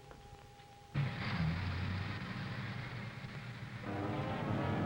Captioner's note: car rumbling; dramatic music